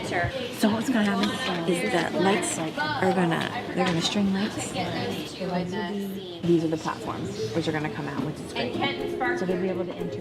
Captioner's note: background Conversation